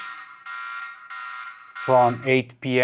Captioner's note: alarm beeping